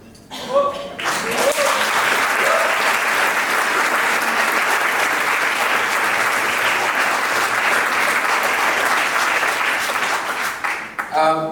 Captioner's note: applause